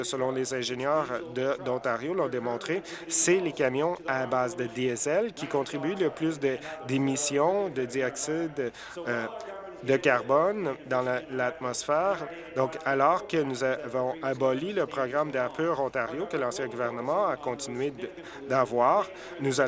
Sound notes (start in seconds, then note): none